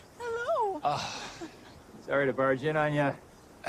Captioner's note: sighs